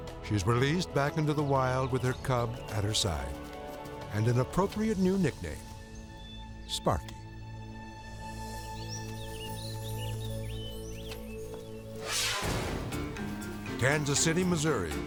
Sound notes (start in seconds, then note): 8.3 birds chirp; 11.9 air whooshes